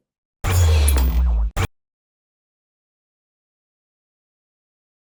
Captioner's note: graphics whooshing